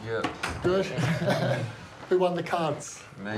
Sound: laughter

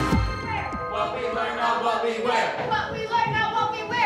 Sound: crowd

